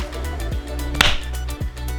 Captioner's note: clap